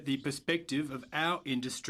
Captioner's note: speaking French